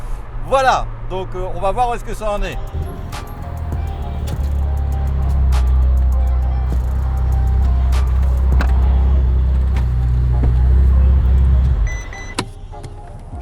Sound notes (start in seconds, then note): 2.7 engine roaring; 12.3 door opening noise